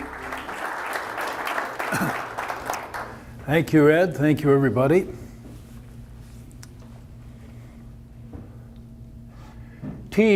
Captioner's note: applause